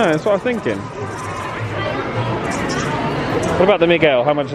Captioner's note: toy clattering